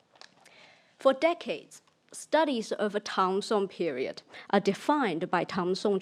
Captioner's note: speaks in foreign language; speaks in foreign language